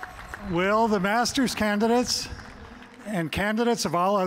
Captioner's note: applause